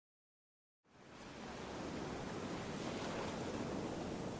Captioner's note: waves crashing